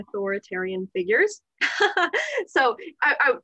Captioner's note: laughter